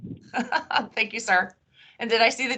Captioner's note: laughing